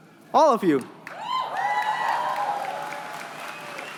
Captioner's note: cheering